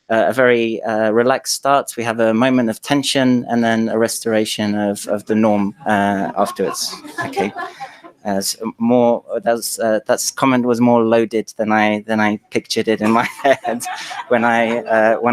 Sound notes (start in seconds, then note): 5.5 laughter